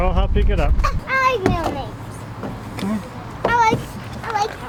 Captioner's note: children chattering